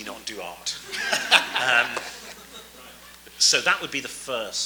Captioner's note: audience laughs